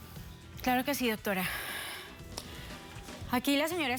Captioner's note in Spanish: exhala